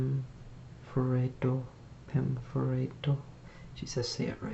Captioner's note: foregin language